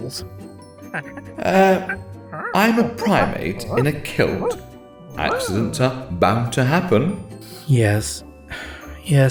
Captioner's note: ape noises